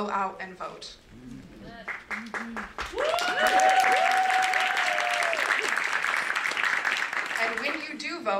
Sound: applause

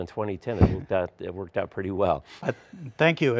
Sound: laughs

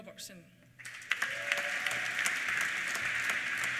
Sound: applause; cheers

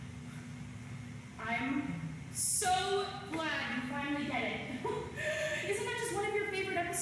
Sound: laugh

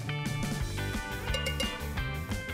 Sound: ringing

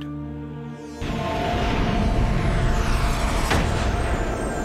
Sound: dramatic sound

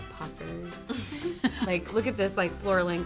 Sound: laughs

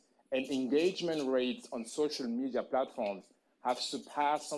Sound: none

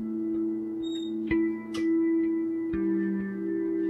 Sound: door creaking

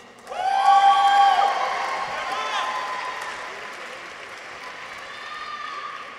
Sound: audience applauds; people cheer

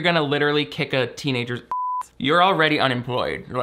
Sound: beep

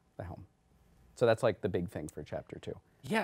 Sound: none

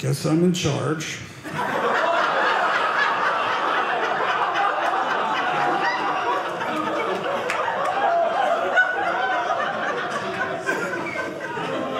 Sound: audience laughing

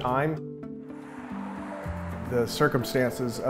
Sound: car engines rumbling

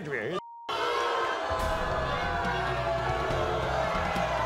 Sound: audience boos

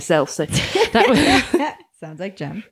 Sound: laughing

